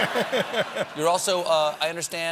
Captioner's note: laughter